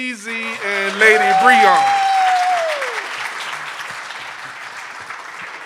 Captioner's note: audience applauding